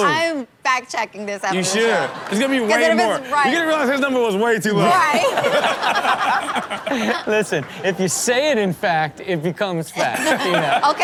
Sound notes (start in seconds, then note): 5.2 everyone laughs